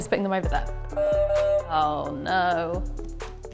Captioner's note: beeping